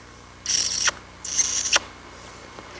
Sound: smooch

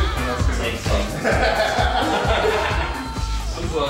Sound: laughter

